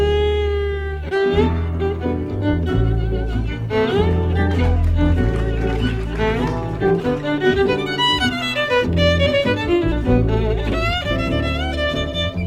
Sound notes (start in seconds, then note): 0.1 jazz violin music; 5.5 audience claps